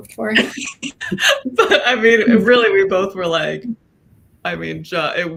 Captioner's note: laughing